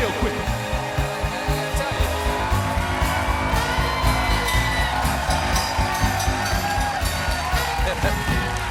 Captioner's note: applause; applause